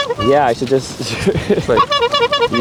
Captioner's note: laughs; honks horn